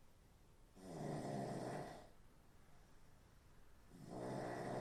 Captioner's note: Phil snoring